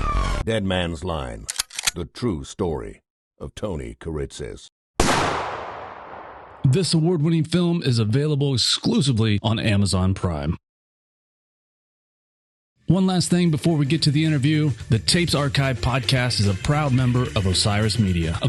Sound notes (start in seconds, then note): 1.4 gun cocks; 5.0 gunshot